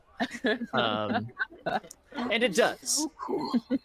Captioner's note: laughter